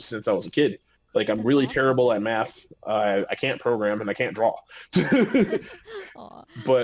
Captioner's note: laughing